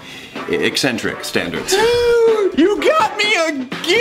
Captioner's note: gasps